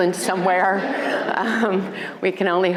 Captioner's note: crowd laughing